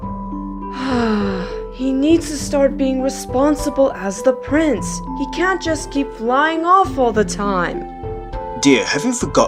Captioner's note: sighs